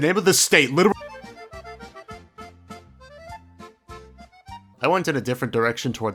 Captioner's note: spongebob noises